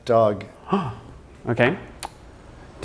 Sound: gasp

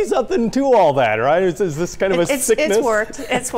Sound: laughs

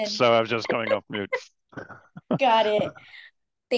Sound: laughing

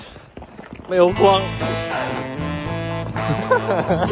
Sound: choked

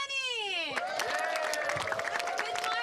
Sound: crowd applauds

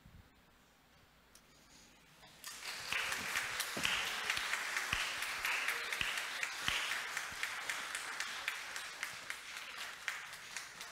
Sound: audience applauding

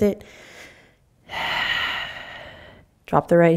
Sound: exhaling

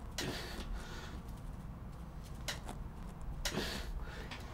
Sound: breathes deeply

